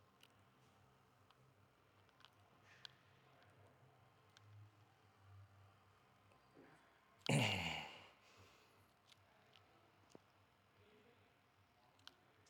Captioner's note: mimics babbling